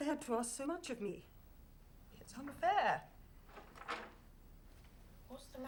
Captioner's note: door Opens